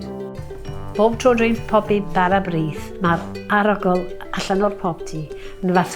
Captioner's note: speaking in foreign language